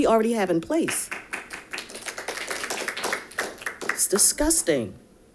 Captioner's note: audience applauding